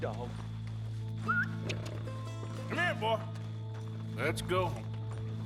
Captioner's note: continues whistling